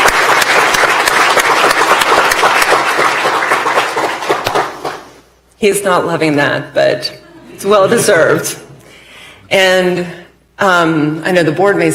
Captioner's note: applause